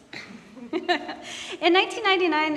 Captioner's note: laughing